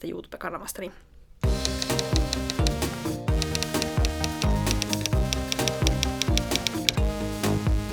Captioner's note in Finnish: kirjoituskoneen naputusta